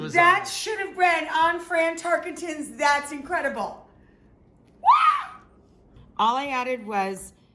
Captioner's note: screaming